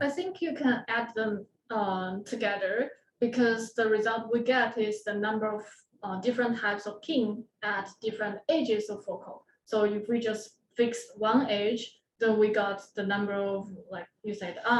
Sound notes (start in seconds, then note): none